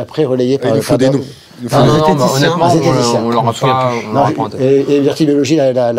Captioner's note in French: brouhaha